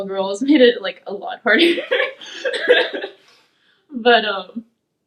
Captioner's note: laughing